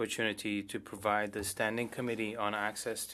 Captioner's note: speaking French